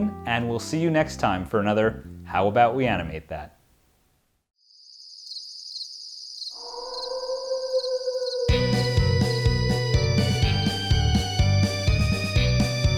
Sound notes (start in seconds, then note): 6.6 werewolf howling; 8.5 energetic thriller music